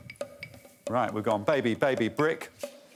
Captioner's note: blows whistle